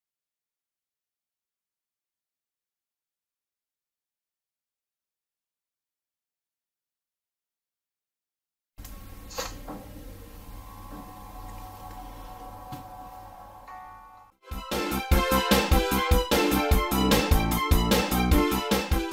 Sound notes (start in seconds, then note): 9.2 console sounds amid camera noises; 14.1 digitally-remastered video game music